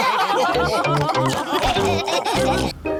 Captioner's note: laughter